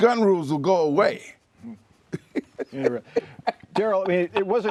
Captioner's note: laughter